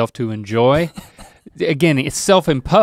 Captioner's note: chuckles